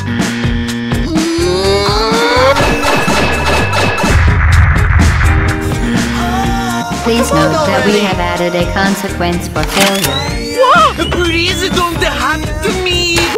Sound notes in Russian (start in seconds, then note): 2.4 бам-бам-бам!